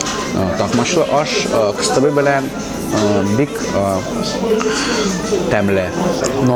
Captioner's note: speaking Tatar